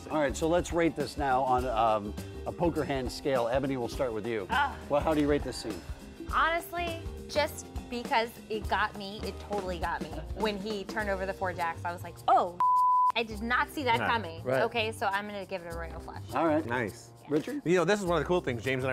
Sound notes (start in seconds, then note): 12.6 beep